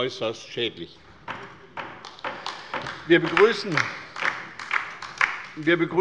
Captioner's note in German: Beifall bei der LINKEN